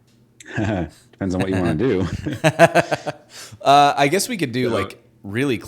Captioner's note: laughing